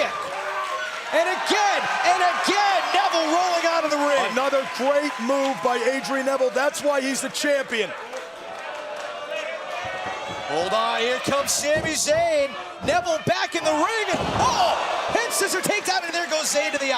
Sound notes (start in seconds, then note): 9.8 crowd cheering